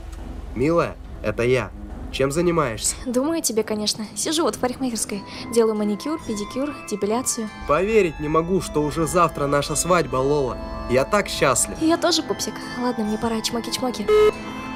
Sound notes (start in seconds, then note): 0.9 on phone